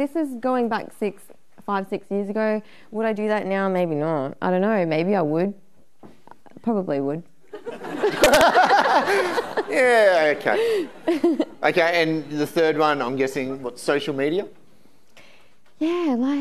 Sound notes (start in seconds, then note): 7.6 audience laughing